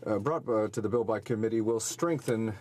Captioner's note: speaking in French